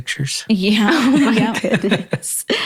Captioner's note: laughs